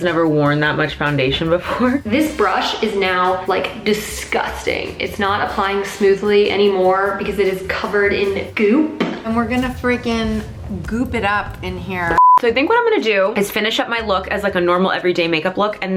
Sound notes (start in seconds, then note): 12.1 beeping